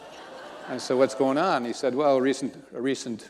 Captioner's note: audience laughing